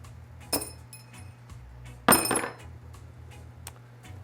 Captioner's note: clanking